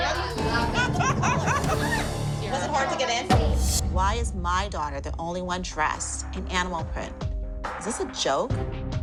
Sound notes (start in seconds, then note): 0.4 laughter